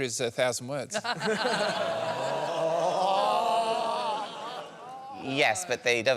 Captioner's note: laughter